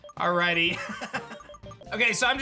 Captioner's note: laughs